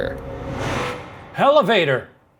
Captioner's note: air whooshing